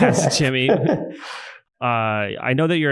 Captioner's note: laughs